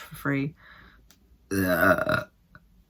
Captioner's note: burping noise